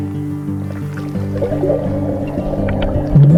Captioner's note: water bubbling